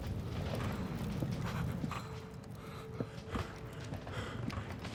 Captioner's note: heavy breathing